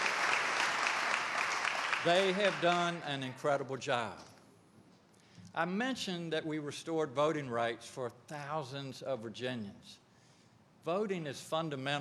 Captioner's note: applause